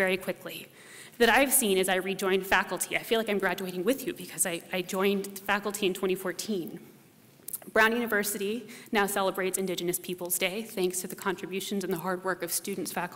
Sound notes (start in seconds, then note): none